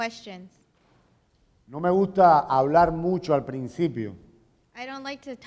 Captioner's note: speaking in Spanish